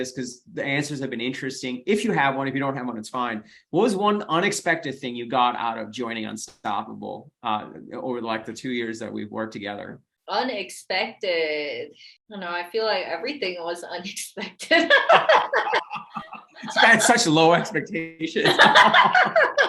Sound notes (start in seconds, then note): 14.7 laughs